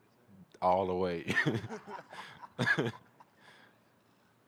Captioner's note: laughter